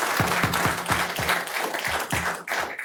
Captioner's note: applause